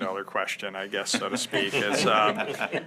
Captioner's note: laughter